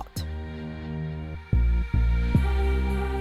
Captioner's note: voiceover